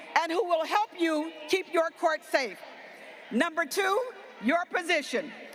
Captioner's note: none